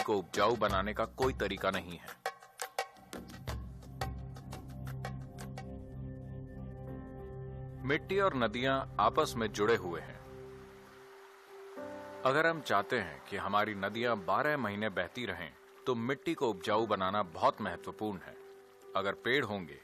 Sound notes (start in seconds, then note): 5.6 applause; 6.3 speaks in Gujarati – not transcribed